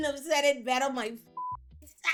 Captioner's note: beep